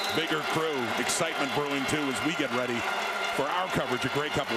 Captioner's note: crowd Noise